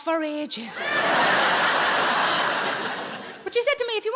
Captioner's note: audience laughing